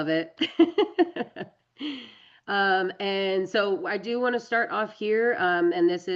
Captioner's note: laughs